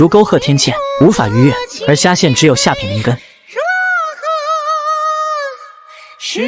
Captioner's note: sigh